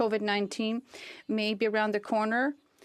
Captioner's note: speaking French